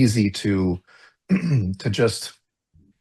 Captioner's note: clears throat